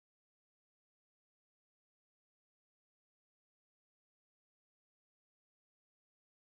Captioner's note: none